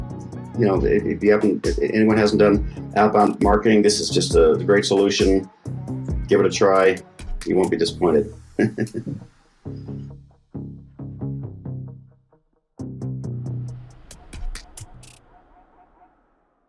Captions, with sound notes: You know, if anyone hasn't done outbound marketing, this is just a great solution. Give it a try. You won't be disappointed. (chuckling) (rhythmic beats music)